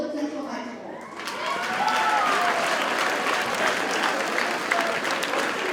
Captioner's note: audience cheers and applauds